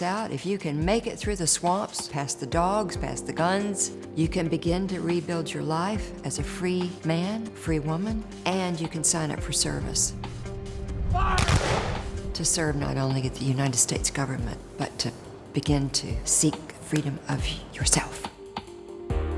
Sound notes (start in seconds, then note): 11.4 gun fires